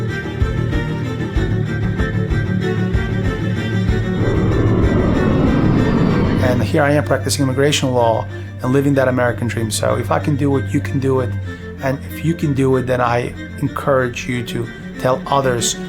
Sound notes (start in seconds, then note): 4.0 plane noise